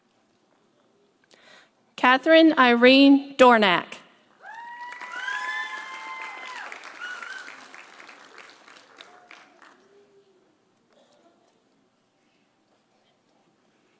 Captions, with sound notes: Katherine Irene Dornak. (audience cheering) (audience applauding)